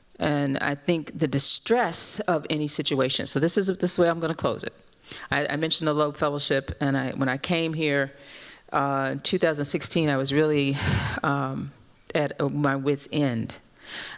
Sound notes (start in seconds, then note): none